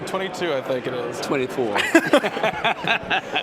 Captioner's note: laughter